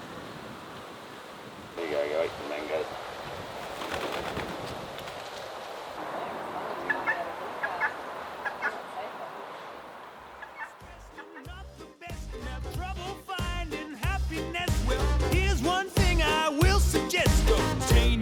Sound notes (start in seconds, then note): 3.0 guineafowl wings flapping; 6.8 guineafowl calling; 11.4 upbeat swing music